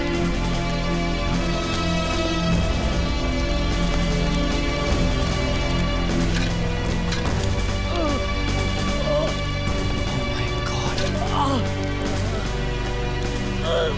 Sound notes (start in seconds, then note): 11.3 Groans